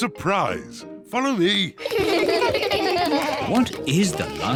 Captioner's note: kids laugh